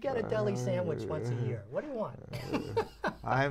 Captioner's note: laughter